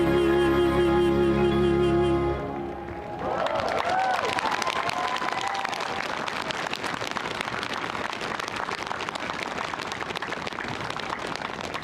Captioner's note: cheering; applause